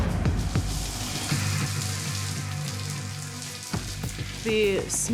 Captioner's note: water pattering